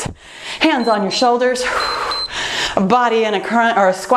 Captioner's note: timer beeps